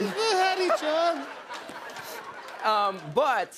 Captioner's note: laughter